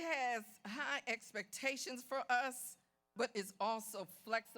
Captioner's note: none